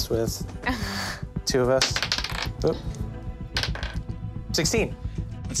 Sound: dice clatters

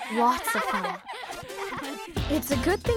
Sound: giggling

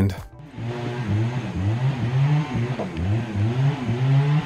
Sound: engine revving

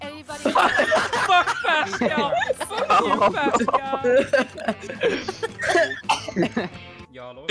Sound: laughter commences

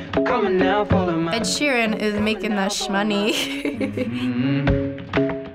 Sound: chuckles

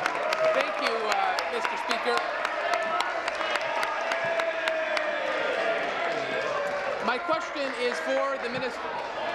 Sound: applause; cheering

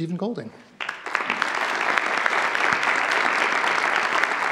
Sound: audience applauds

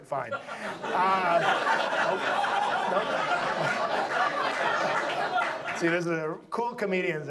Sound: audience laughs

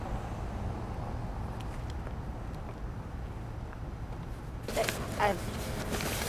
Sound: none

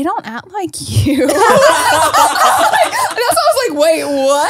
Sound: everyone laughs

